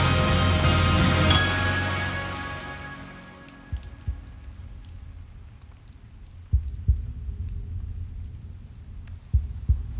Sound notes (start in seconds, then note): 3.7 music fades out; 6.4 heartbeat pulsing